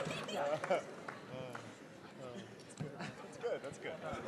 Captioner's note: audience gradually settling